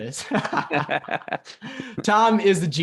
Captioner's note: laughing